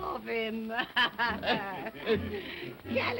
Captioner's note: all chuckling